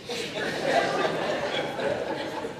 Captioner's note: laughter